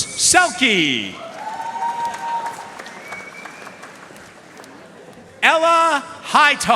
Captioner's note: audience cheering and applauding